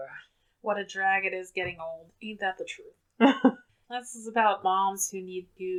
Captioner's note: laughs